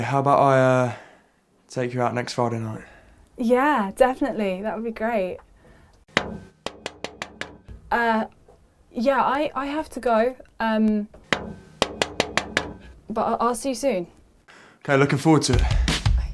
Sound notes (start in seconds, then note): 6.1 knuckles tapping; 11.1 knuckles tapping